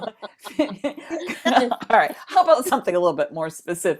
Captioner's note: laughs